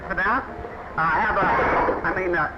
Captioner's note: clattering